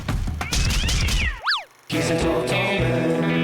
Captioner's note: cat yowling